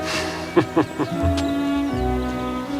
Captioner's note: Chuckles